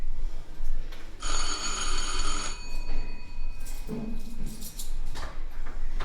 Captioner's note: ding-dong